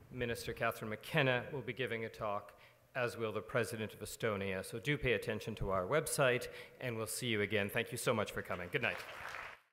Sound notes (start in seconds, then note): 8.5 audience applauding